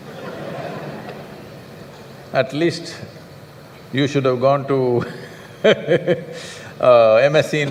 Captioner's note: laughter